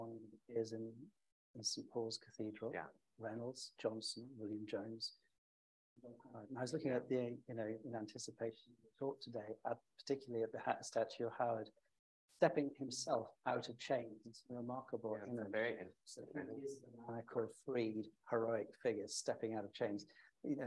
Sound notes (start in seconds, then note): 5.4 faintly speaking; 17.2 faintly speaking